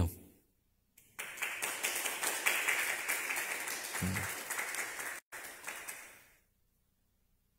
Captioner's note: clap